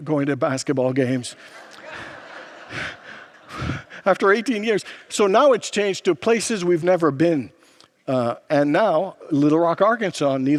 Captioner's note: congregants laugh